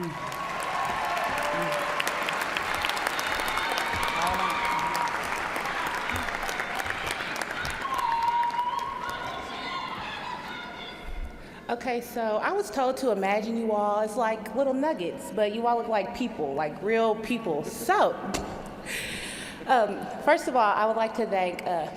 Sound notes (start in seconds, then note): 6.5 cheers and applause